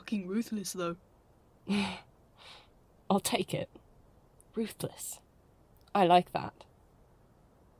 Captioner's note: Lily laughs